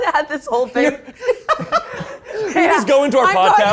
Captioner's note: laughs